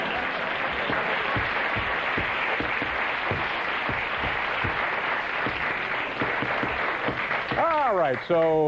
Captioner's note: cheers and applause